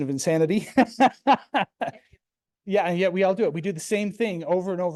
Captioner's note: laughs